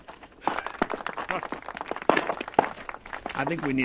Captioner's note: applause